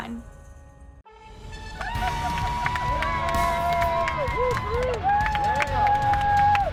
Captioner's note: upbeat music; crowd cheering